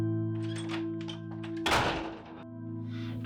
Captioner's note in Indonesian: suara pintu di banting